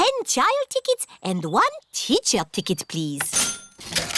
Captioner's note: cash register dings